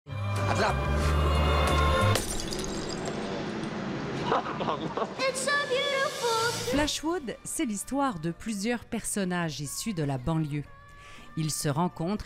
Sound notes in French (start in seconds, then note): 2.1 bruit de verre qui casse; 2.3 rires